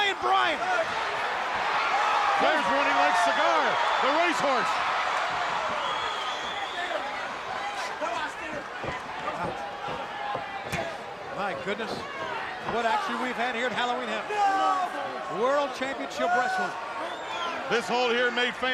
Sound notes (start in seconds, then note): 12.5 crowd chatter